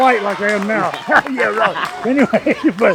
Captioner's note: laughing